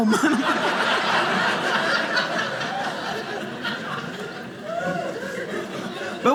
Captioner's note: audience laughing